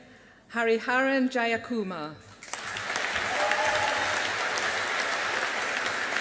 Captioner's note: audience applauding